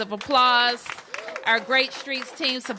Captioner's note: applause